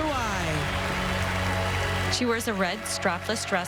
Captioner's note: applause